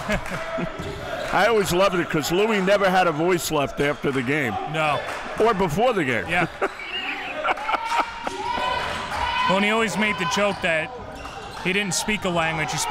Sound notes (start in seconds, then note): 0.0 laughs; 6.4 laughs